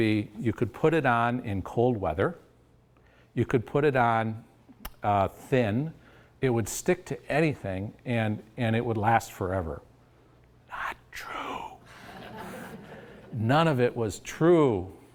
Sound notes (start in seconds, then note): 11.9 audience laughs